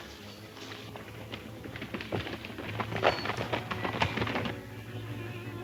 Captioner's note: horse hoof beats